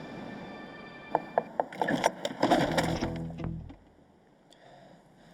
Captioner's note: hand knocking